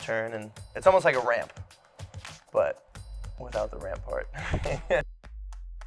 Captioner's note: laughs